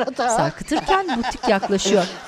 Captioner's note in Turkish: Gülme sesi